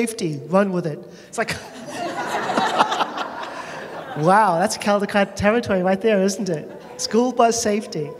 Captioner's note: laughter